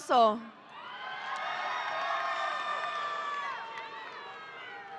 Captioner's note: audience applauding